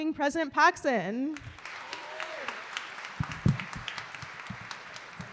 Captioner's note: applause